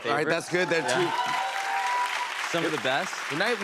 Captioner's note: cheers and applause